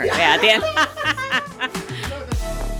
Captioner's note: laughing